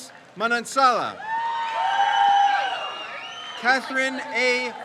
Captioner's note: crowd cheers